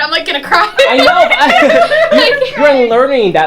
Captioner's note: laughing